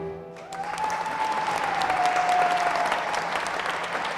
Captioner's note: applause